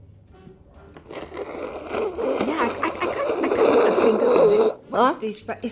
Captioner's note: slurping sounds